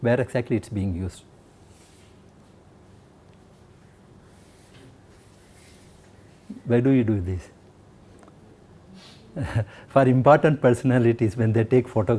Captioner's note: laughter